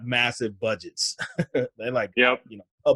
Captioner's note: laughs